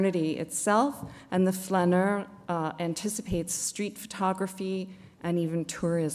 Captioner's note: non-english speech